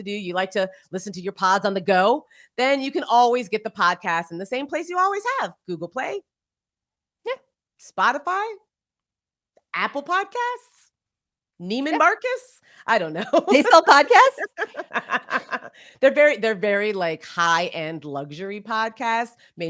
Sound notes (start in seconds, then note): 9.1 laughs